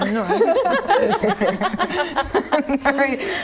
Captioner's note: laughing